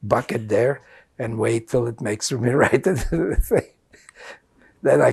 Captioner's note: laughing